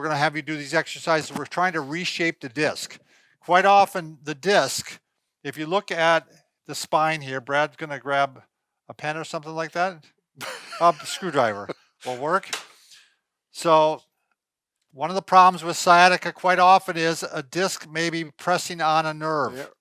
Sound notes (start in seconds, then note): 10.4 laughs